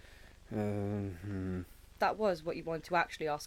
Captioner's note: mumbles and Stutters